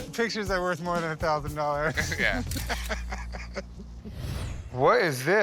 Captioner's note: both laughing